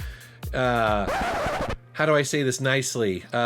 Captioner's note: record scratching